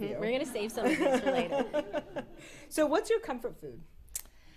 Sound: laughs

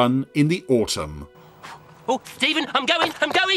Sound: blowing

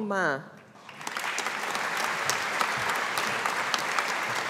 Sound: audience applauding

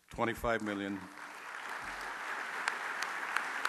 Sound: applause

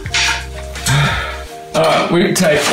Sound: sigh

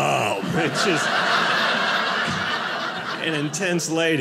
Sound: audience laughing

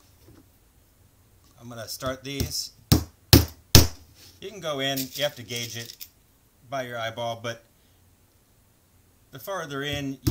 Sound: hammer sound; hammer sound

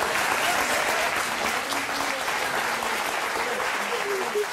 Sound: audience claps

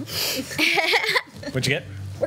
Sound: laughs

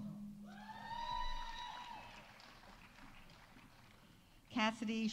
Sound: audience cheering; audience applauding

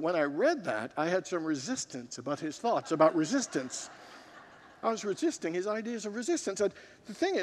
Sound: congregants laugh

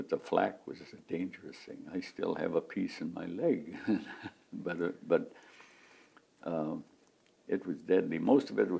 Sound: laughs

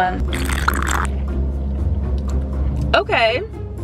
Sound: sipping on coffee

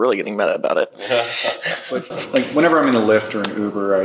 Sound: panel members laugh

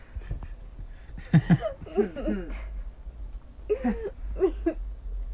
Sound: Cody laughs

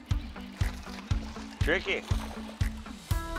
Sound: fish splashing

